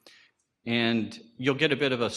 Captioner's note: none